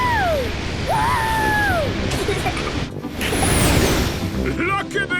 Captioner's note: rocket thrusting